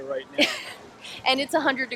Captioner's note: chuckling